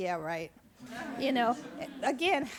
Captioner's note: audience laughs